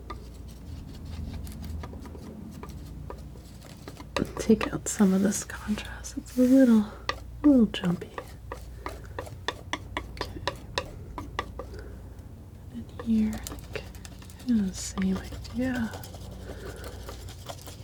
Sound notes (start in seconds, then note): 9.6 tapping